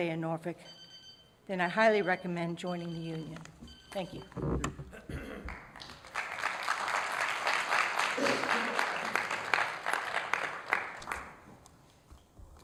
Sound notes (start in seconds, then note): 5.4 applause